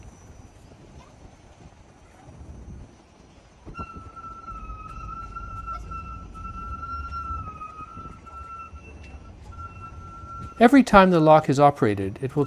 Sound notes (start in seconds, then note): 0.1 wind rustles; 3.7 gate squeaks; 4.2 wind rustles